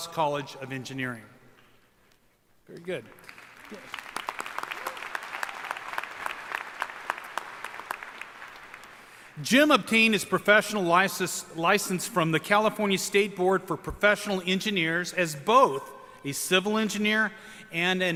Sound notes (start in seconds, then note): 3.0 applause